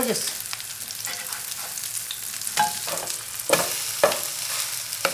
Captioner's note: pan sizzling